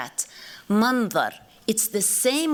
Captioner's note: non-english